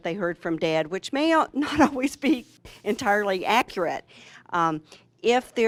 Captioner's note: chuckling